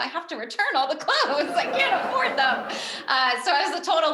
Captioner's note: giggles